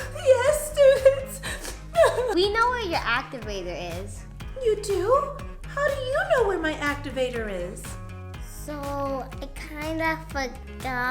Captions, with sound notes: - Yes, students? (sobs) - We know where your activator is. - You do? How do you know where my activator is? - So I kind of forgot